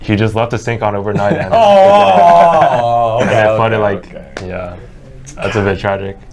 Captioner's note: groans